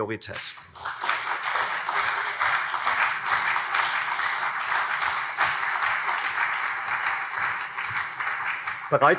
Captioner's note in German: Beifall CDU und SPD